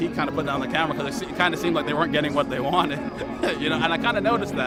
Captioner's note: laugh